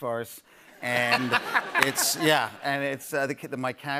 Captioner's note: laughter